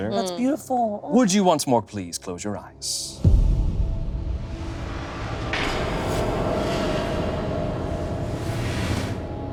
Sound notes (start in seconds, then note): 2.5 dramatic music; 5.7 metal clanging